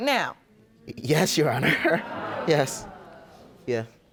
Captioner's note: audience gasping